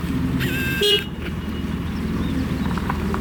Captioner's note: squeak